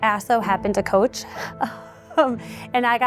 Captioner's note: laughter